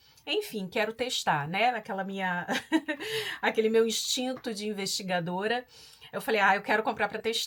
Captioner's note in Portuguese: risadas